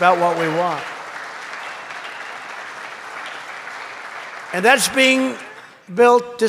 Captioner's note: applause